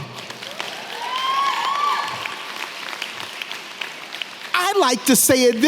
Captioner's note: audience clapping and cheering